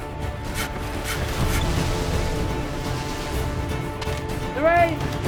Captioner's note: saw cutting sound